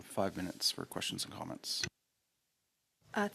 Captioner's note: speaking French